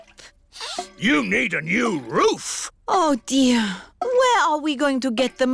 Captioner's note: sniffs